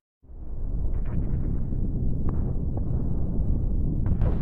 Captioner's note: low rumbling